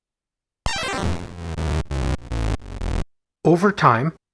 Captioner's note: arcade sound effect